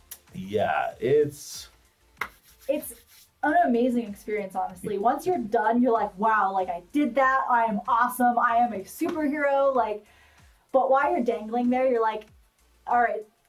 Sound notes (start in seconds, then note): 2.1 rubs hands; 2.2 claps hands